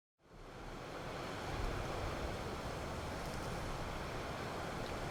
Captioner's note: static whooshing